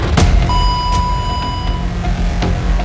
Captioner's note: starting tone beeps